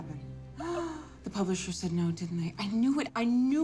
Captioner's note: gasps